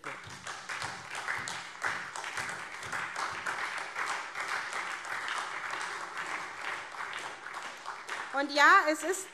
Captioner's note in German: Beifall SPD